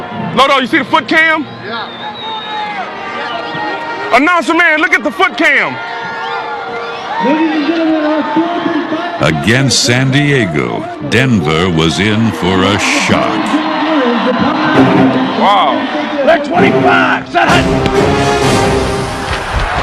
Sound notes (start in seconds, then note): 12.3 crowd cheering